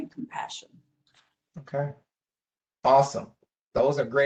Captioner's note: professor speaking